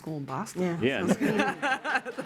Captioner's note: laughter; applause